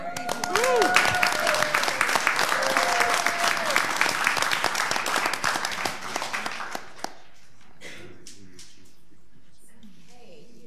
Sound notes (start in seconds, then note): 0.0 all applauding